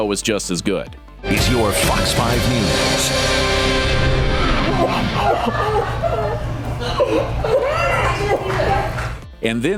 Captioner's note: laughter